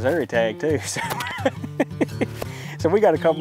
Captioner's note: laughs